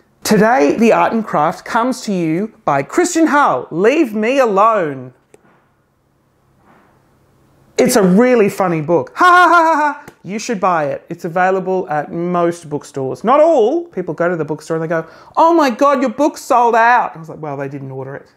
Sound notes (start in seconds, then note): 9.2 fake laughs